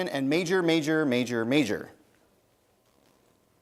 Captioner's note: none